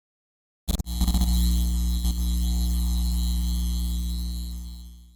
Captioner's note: electric crackling